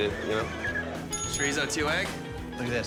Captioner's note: bell dinging